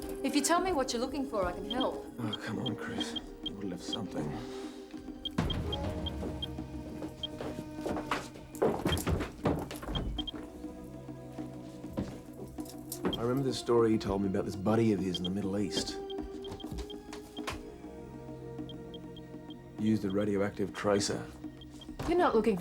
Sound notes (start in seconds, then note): 5.2 geiger counter beeps